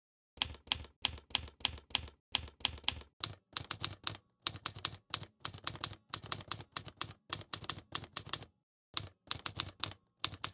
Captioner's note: typing